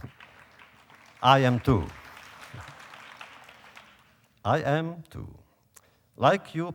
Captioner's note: applause